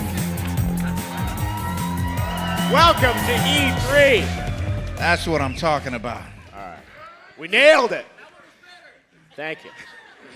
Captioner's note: cheers and applause